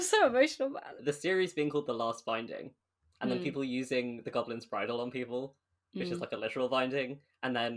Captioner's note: none